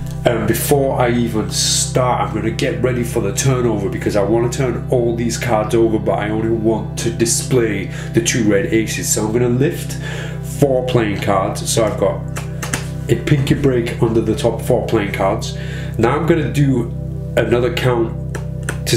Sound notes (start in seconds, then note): 12.3 cards shuffling